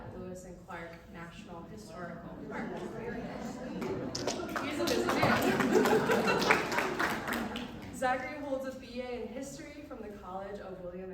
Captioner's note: applause